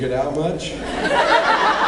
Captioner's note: laughs